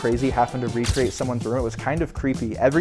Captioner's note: flash snaps